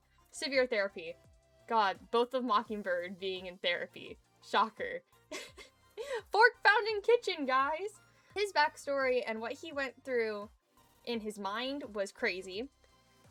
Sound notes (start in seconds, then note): 5.3 giggles